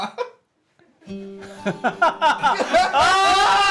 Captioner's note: laughing